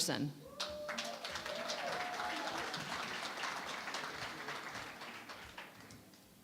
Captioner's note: applause